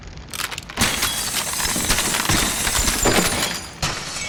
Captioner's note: ice shattering